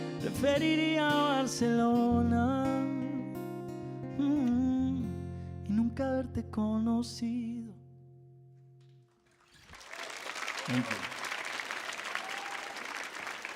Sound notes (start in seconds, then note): 0.6 sings in Spanish; 9.4 audience applauds and cheers